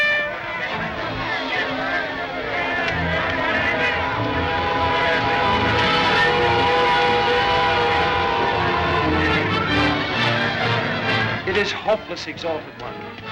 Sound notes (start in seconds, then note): 0.1 people chatter; 3.7 machine whirs loudly; 9.0 dramatic instrumental music